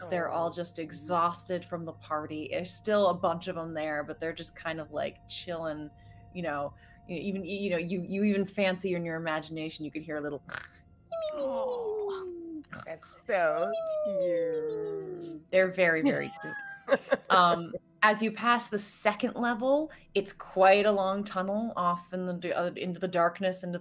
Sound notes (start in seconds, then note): 11.1 Deborah snores